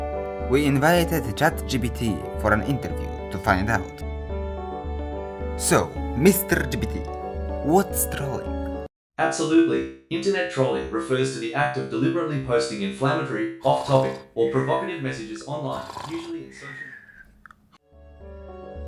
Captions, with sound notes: We invited ChatGPT for an interview. To find out So mr.GPT what's trolling? Absolutely! Internet trolling refers to the act of deliberately posting inflammatory, off topic *sounds of deep interest*